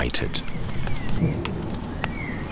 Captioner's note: heavy raindrops are falling